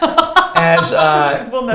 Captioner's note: laughs